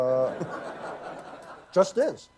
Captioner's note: laughter